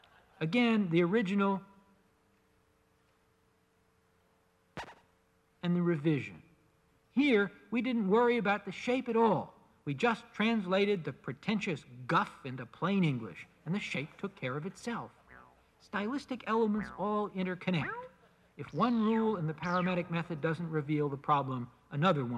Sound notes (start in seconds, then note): 2.8 silence